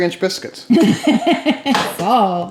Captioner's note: laughing